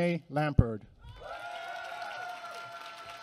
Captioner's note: applause